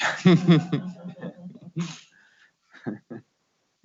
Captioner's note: laughing